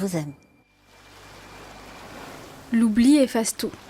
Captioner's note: sound of waves